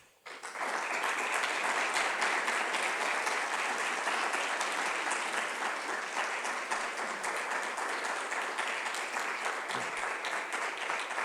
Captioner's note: applause